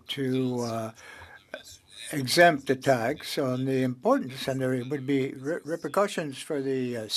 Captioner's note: speaking French